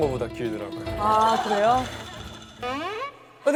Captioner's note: voice trembling with nerves